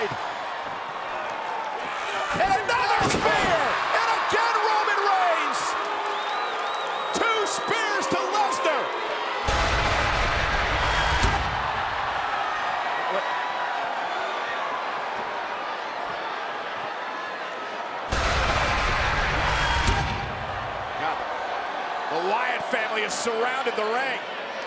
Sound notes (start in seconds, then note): 0.3 audience cheering; 9.5 suspensful music; 11.9 audience cheering; 18.3 suspensful music